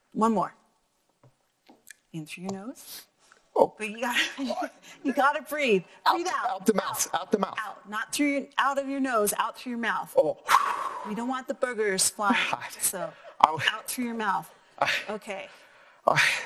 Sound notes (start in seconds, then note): 10.5 breathing hard; 12.7 laughing